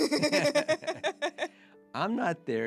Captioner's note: both laughing